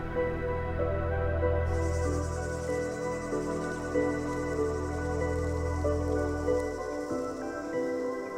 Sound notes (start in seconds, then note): 1.6 insects chirping